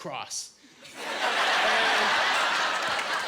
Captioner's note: laughing